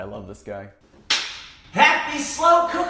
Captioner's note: hands smacking